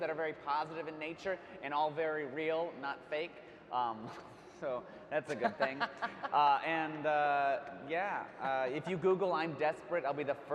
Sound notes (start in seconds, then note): 5.3 laughing